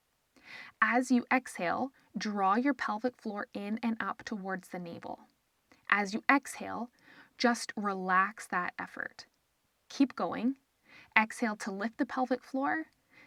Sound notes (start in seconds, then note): 7.0 inhale